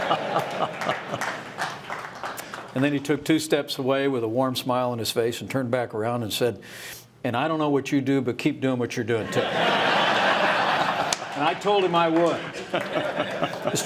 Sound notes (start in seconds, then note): 9.2 laughter